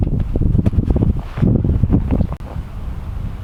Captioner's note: wind howling